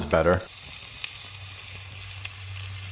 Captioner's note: sizzle Sounds!